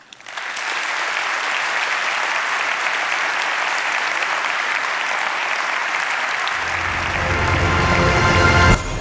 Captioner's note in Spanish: Aplausos